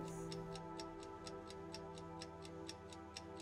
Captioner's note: clock ticking